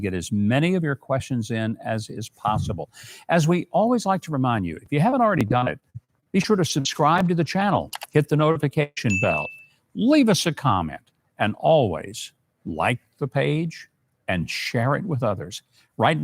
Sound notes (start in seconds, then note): 9.1 bell dinging